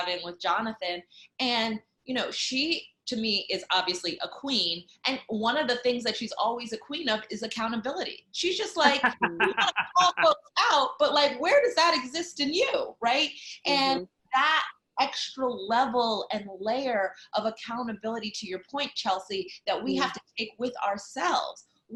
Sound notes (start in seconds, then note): 8.8 laughing